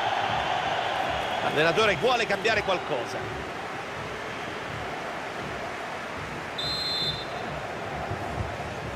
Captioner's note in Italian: Applauso